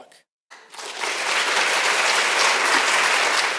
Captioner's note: audience applauding